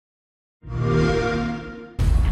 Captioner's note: xbox sound